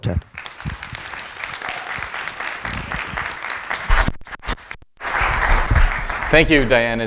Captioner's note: applause